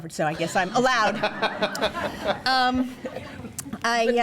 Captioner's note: laughter